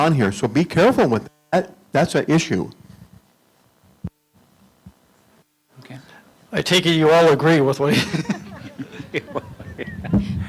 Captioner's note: laughter